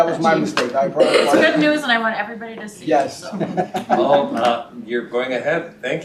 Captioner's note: laughter